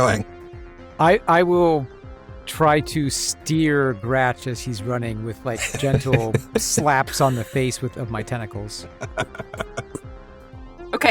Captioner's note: chuckles